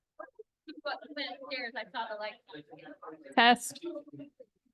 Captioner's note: ambient chatter